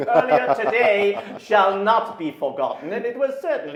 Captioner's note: laughs